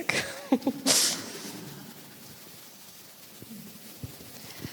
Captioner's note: audience laughs